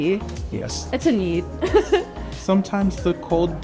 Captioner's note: laughter